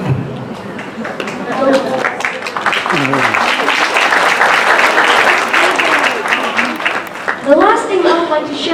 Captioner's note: applause